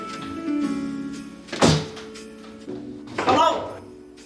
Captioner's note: door slamming